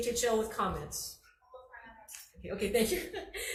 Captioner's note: laughs